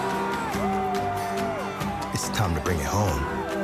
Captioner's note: people cheering